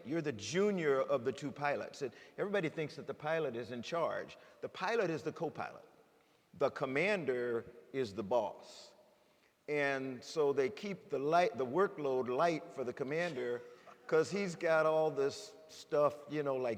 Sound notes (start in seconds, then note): 13.5 chuckles